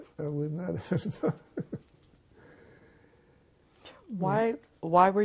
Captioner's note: laughing